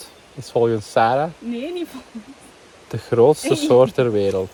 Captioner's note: laughs